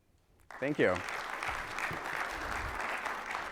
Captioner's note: audience applauding